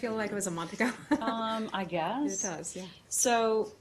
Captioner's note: laughter